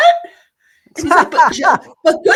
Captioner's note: laughing